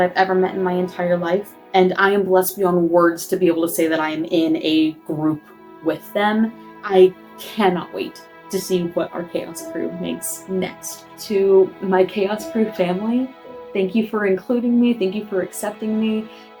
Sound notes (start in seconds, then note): none